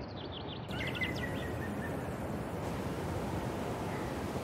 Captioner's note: birds chirping